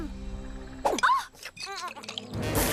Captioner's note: gasps